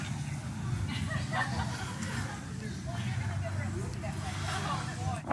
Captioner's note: ladies laughing